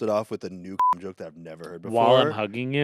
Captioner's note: beep